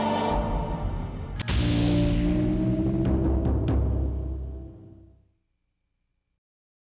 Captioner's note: electricity zapping; logo thumping